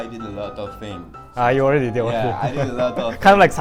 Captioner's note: chuckle